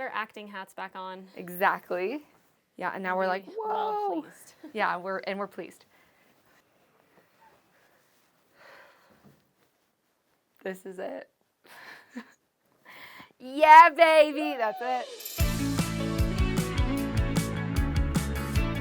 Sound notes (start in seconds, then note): 11.5 laughs; 13.6 upbeat music begins; 14.3 cheers